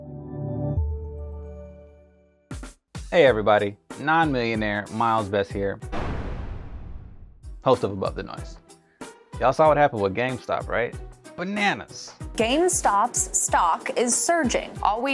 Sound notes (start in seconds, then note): 0.2 upbeat music; 5.9 loud thumping